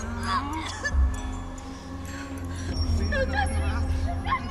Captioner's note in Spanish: Gritos